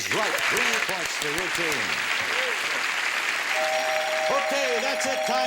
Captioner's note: applause